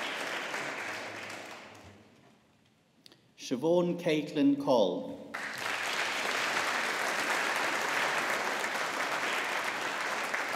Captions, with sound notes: Siobhan Caitlin Coll. (AUDIENCE APPLAUDING)